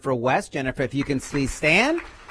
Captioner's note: applause